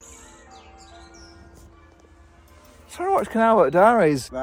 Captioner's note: bells ring